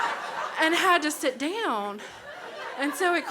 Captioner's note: crowd laughs